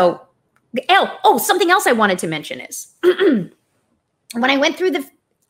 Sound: clears throat

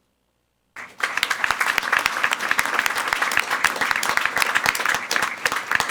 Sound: everyone applauding

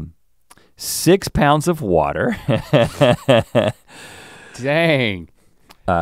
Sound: chuckles

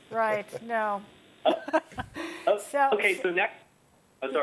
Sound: laughter

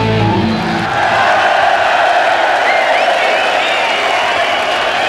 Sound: audience cheering

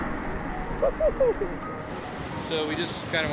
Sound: laughing

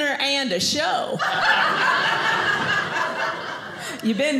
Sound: audience laughing

